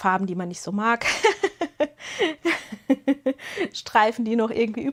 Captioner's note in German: gelächter